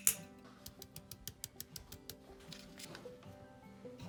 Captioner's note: tapping